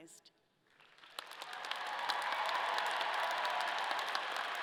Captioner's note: audience applauding